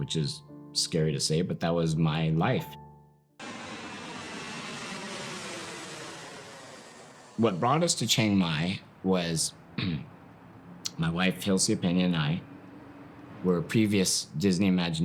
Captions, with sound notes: which is scary to say, but that was my life. (airplane sound) What brought us to Chiang Mai was my wife, Hilcia Peña, and I. Were previous-- Disney imagineers